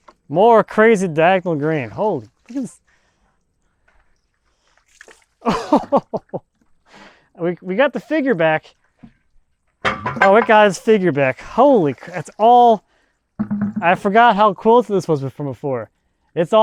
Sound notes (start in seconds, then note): 5.4 chuckling